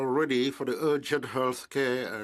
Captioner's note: speaking in French